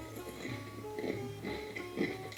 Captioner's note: Crunch